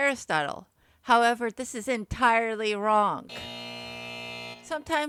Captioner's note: buzzer